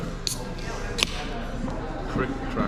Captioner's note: beer can popping crisply